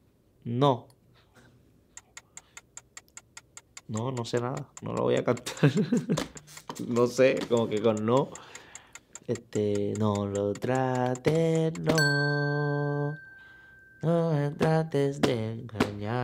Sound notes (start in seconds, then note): 4.5 speaking in foreign language; 11.9 positive beep